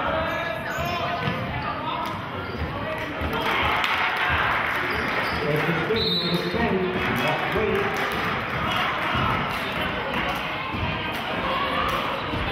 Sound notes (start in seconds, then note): 0.3 yelling; 3.0 cheering; 5.9 whistling